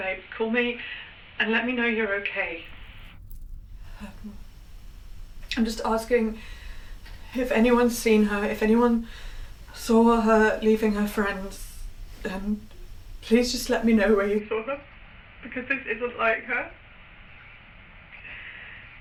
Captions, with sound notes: Call me and let me know you're okay. (quiet gasp) I'm just asking if anyone's seen her, if anyone saw her leaving her friends, and please just let me know where you saw them. (sobs) because this isn't like her.